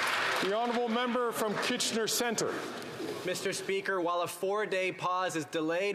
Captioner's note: some Applause